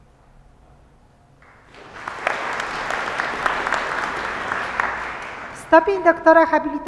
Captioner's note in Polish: oklaski